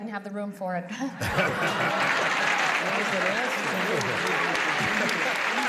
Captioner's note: laughter and applause; indistinct chatter and laughter